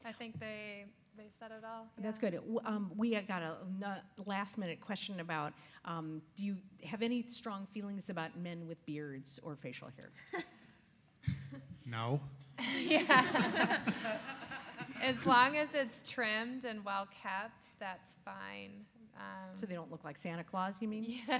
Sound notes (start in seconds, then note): 10.4 laughs; 12.6 audience laughs; 12.7 laughs